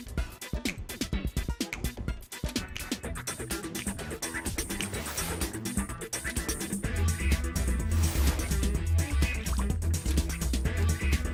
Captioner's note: rhythmically snapping fingers